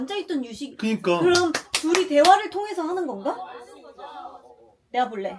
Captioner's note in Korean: 짝짝짝짝짝